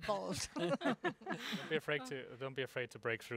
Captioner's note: laughing